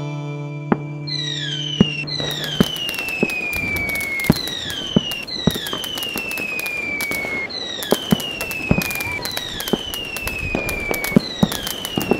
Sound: fireworks exploding

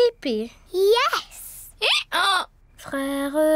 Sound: brays

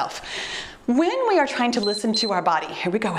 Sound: timer beeps

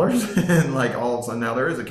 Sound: laughing

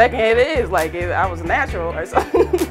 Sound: laughing

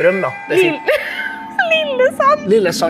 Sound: she laughs

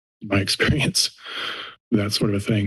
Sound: inhales

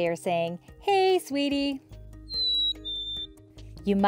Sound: black-capped Chickadee call

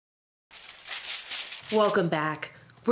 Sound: papers rustling

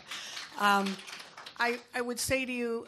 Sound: audience applauds

